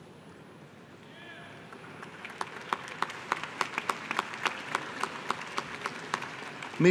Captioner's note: applause